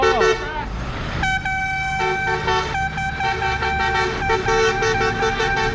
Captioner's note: airhorn